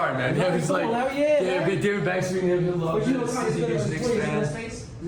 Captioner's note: people chattering